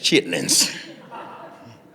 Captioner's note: audience laughing